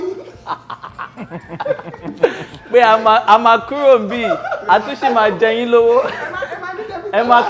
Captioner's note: everyone laughs